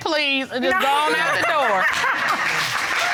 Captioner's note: laughs